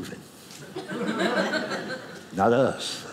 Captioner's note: audience laughing